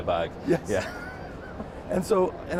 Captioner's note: laughs